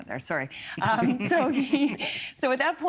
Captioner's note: laughing